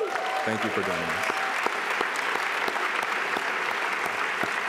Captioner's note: applause